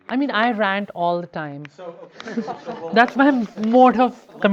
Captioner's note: group laughs